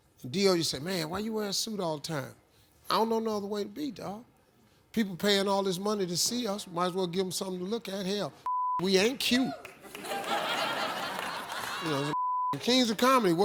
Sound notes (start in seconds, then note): 8.4 beep; 9.8 laughter; 12.1 beep